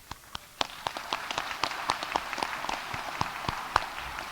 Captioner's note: audience applauding